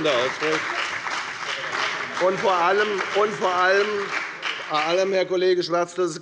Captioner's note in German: Beifall bei der FDP und bei Abgeordneten der SPD